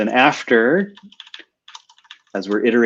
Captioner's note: typing